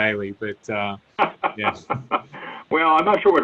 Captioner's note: laughs